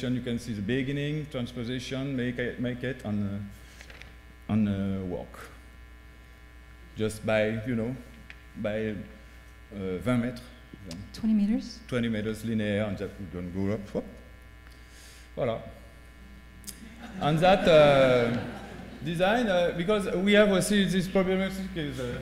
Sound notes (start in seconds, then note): 8.2 speaking french; 12.4 speaking french